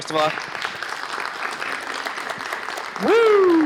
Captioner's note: applause